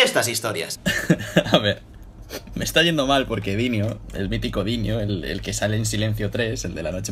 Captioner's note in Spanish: Risas